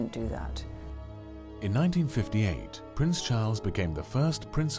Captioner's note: voiceover